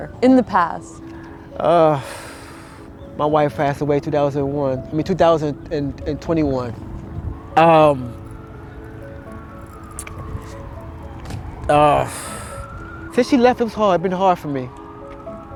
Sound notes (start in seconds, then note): 1.2 sighs; 9.4 gentle poignant music; 12.0 sighs softly